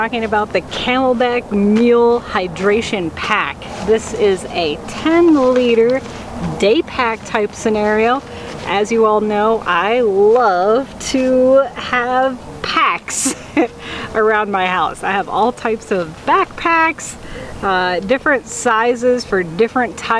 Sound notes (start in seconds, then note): 13.1 laughs